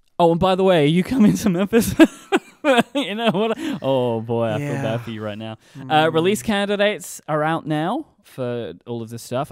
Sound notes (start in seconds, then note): 2.0 laughing